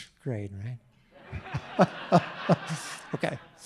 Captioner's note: audience laughing